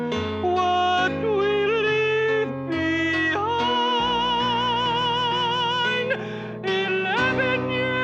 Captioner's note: change to falsetto